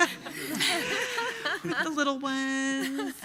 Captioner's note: laughing